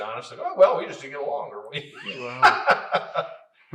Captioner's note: laughs